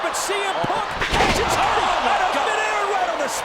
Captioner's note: body thuds